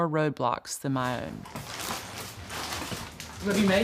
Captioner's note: footsteps